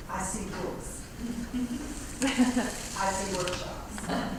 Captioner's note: laugh